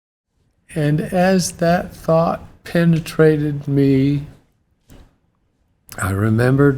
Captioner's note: tearfully